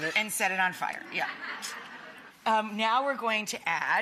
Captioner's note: audience laughing